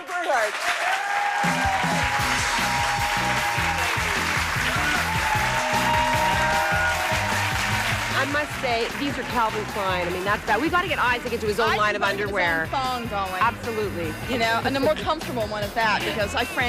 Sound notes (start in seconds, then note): 6.1 cheers and applause